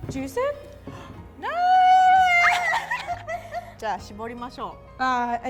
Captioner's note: both giggle and laugh